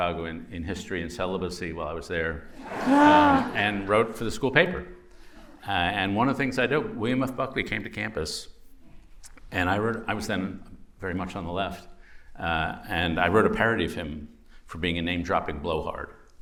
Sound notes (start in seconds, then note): 2.5 laughter